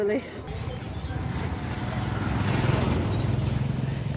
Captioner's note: street noise